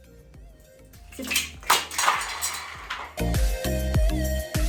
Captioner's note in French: lumieres qui tombent et se brisent